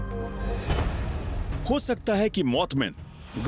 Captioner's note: narrating